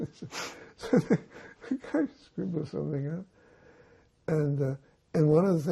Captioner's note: laughing